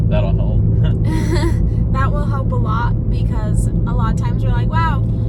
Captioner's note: laughs